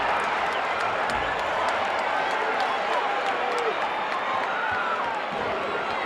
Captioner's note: audience applauding and cheering